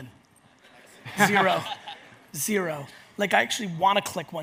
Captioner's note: audience laughs